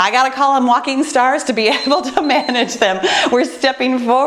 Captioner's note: beeping